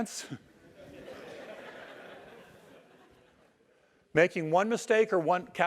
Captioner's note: laugh